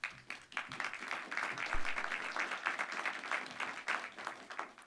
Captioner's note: audience applauding